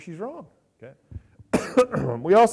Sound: coughs and clears throat

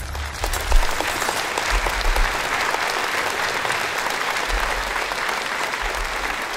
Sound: applause

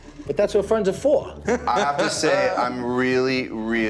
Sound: laughs

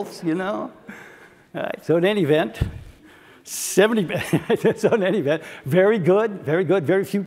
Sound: laugh

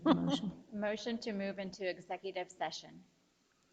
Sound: laughing

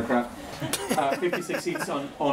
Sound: laughing

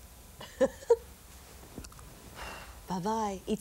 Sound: sound of blowing a kiss

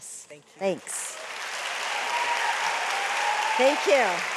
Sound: audience applauds

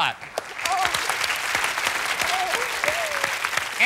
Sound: applause

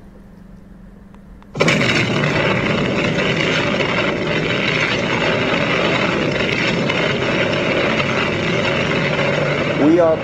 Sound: sounds of an explosion

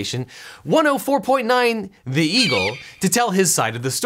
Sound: eagle screech

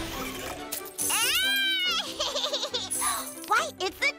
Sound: giggling

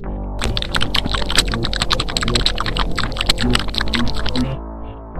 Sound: eating sounds

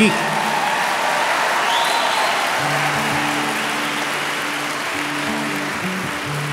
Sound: audience screaming and applauding; guitar music

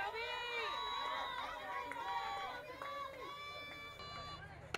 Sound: crowd cheering

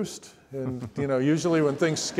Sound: audience laughs

